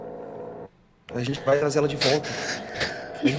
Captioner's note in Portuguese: chorando